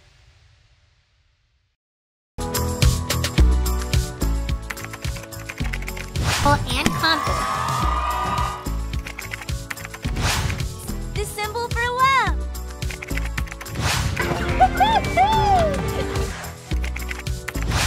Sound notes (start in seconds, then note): 2.4 bright music; 4.6 computer keys clicking; 6.8 crowd cheering; 9.0 computer keys clicking; 14.6 American Girl giggling